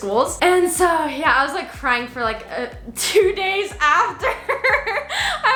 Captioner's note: laughs